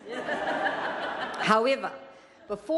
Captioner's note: laughter